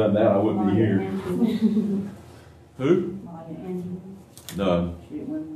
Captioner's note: laughter